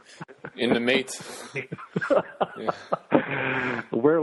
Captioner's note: laughing; laughs